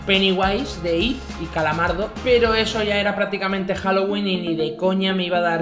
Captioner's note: Squidward in Spanish